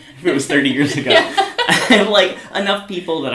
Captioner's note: both laugh